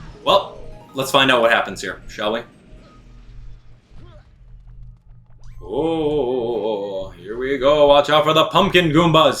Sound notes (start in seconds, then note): 3.5 gaming sounds